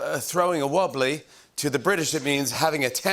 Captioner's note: English accent